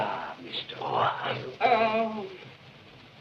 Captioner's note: moaning